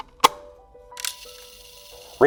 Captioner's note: cassette clicking; gentle music; tape whirring; button clicks